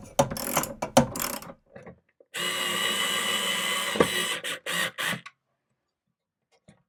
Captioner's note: sound of a rachet wrench; sound of an electric screwdriver